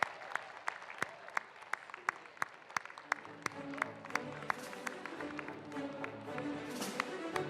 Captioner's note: applause